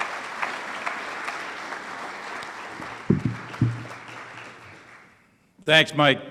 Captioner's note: audience applauds